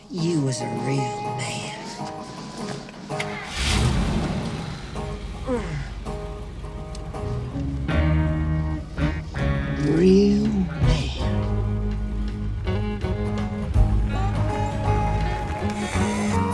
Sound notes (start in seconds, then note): 2.4 engine starts; 13.7 country rock music; 16.3 laughing